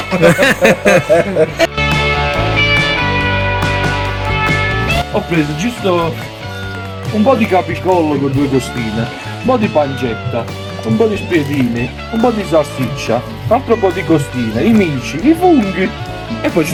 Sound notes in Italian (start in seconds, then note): 5.0 Applauso